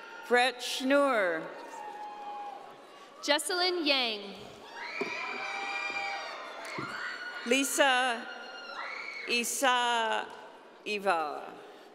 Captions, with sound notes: - Fred Schinua. - Jocelyn Yang. (audience cheering) - Lisa Isa Eva.